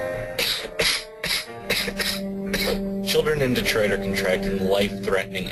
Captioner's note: coughing